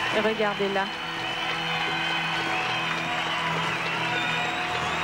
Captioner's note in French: acclamations